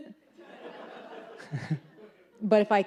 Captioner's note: audience laughs